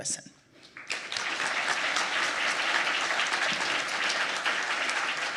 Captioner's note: audience applauding